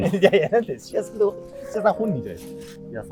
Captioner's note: laughing